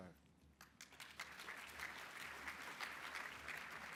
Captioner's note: applause